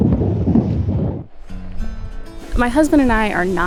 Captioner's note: wind blows